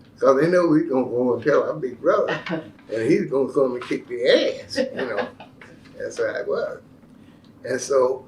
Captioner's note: laughter